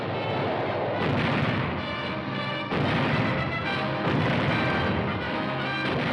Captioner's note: guns blasting